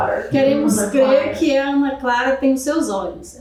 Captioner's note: speaking portuguese